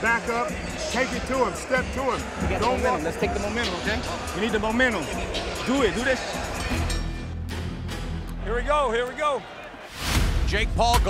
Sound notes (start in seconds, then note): 6.5 bell dings